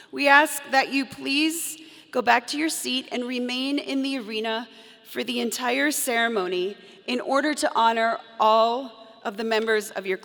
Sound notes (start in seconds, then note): none